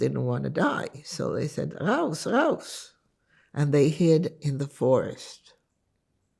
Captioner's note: german